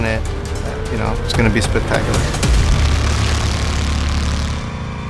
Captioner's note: car engine revving